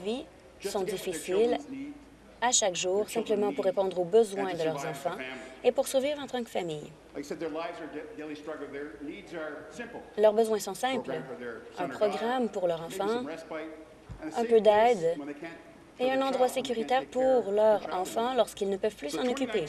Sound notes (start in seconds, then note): none